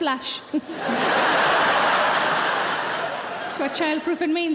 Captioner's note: audience laughing